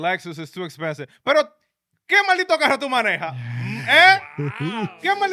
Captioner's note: speaking In Foreign Language